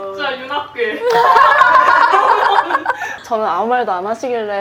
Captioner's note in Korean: 인정하는 웃음